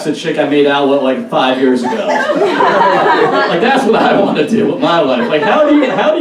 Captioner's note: audience Laughs